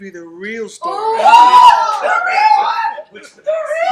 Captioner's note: background cheering